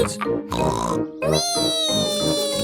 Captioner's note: snorts